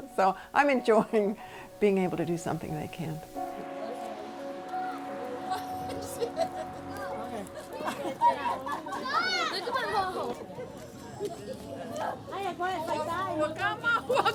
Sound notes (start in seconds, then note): 3.9 slow paced music; 5.2 chattering